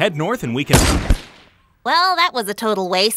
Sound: body thuds

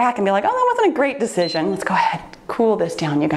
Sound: timer beeps

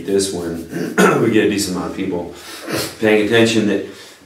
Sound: coughs

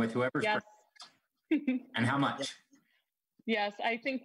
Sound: laughing

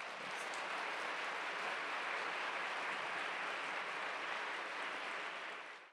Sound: applause

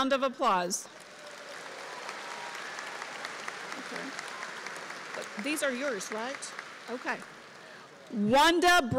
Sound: applause

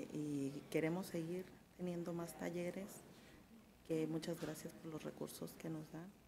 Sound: speaks in a foreign language

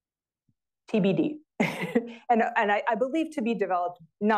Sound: giggles

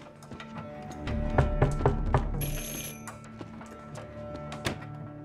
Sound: knocking on door, doorbell rings

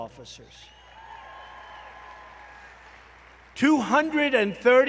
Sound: applause

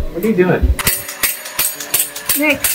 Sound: heartbeat stops

